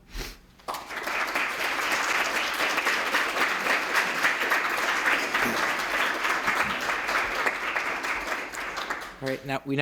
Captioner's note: applause